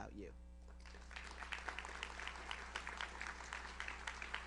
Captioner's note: audience applauds